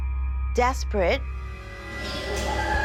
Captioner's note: ghostly screaming